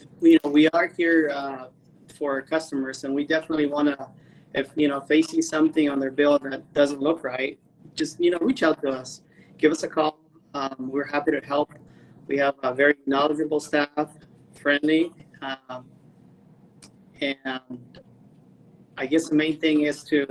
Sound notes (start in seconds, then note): none